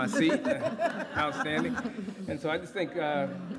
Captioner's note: laughter